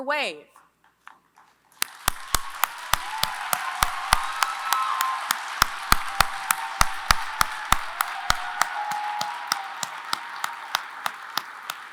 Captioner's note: applause